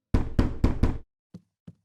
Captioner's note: knock at door